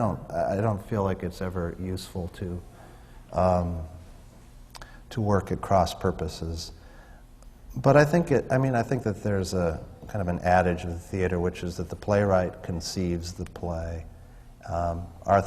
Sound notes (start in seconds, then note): none